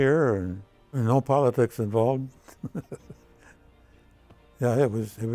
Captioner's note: laughs